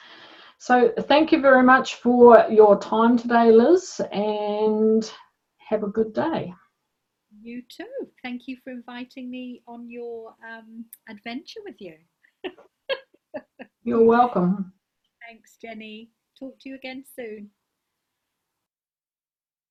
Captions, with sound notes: - So thank you very much for your time today, Liz and have a good day. - You too, thank you for inviting me on your adventure with you (laughs). - You're welcome. - Thanks, Jenny, talk to you again soon.